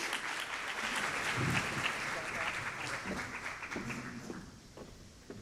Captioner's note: applause